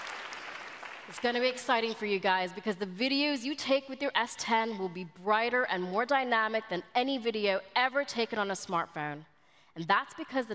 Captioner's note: applause